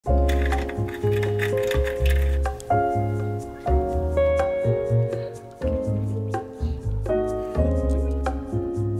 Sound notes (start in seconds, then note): 0.1 upbeat music; 0.2 window blinds clanking; 2.6 upbeat music